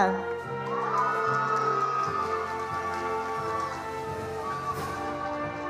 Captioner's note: attendees applauding